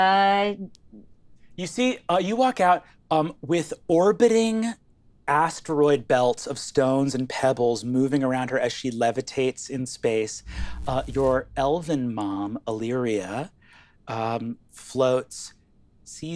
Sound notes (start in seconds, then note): none